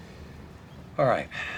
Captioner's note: sighs